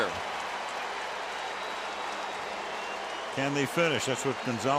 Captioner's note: cheering